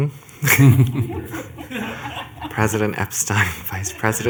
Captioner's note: laughter